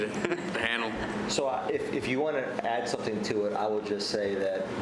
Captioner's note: laughter